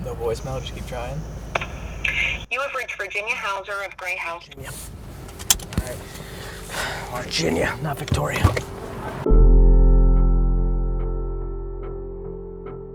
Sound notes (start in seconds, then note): 6.7 seatbelt clicks; 10.2 piano music